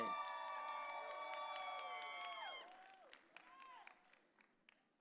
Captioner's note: audience cheering